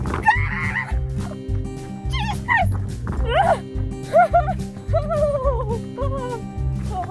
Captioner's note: shrieks; screams; shudders